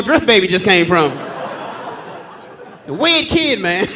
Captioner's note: audience laughing